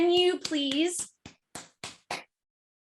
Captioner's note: unnecessary clapping